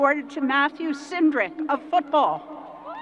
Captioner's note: crowd applause